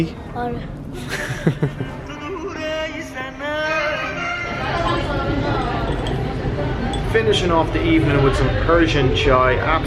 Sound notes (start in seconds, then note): 1.0 laughing; 2.0 man singing upbeat music